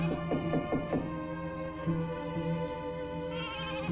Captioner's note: knuckles rapping